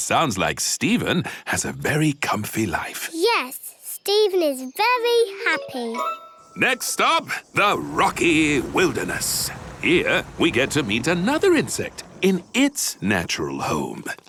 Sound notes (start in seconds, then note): none